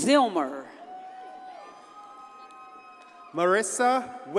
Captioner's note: audience cheers and applauds